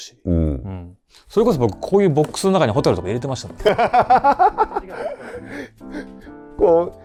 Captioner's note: laughs